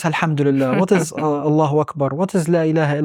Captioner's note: speaking Arabic